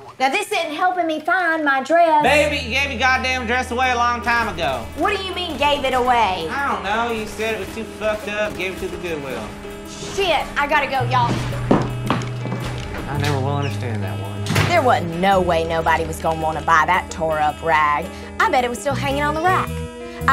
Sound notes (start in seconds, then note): 4.9 video game guns rattling; 11.0 shoes clomping; 14.4 door slamming